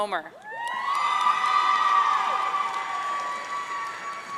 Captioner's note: audience cheering